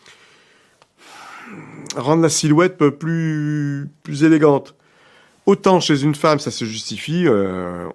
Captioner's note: sigh